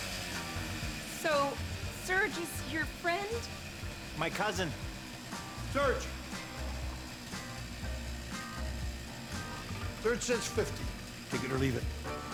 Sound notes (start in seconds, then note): 4.7 revs saw